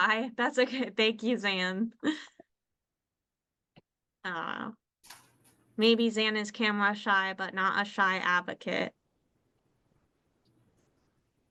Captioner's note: laughter